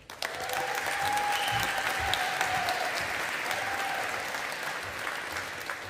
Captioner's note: audience applauding